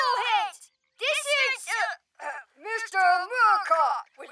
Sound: deep voice

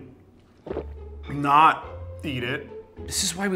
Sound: gulping

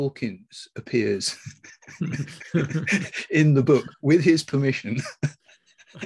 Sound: laughing

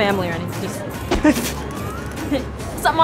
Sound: laughing

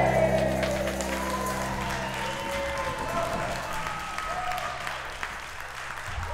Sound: crowd cheering and applauding

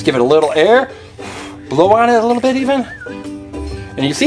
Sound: blows

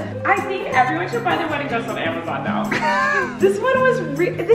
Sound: laughing

